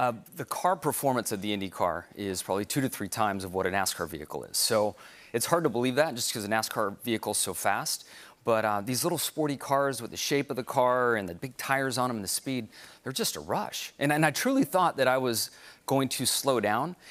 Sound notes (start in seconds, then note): none